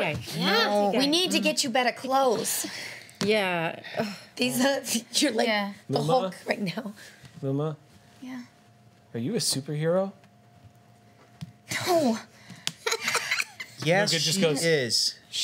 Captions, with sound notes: Yeah, we need to get you better clothes. Yeah. You're like the Hulk right now. Luma. Yeah? Are you a superhero? No. (laughs) Yes, she is.